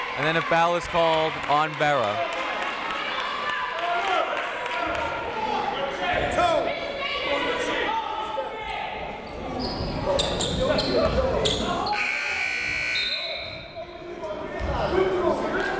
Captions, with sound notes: and then a foul is called on Vera. (buzzer)